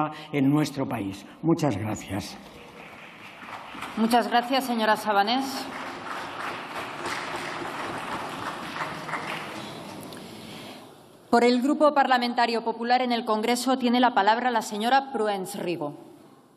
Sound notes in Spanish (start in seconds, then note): 7.5 Aplausos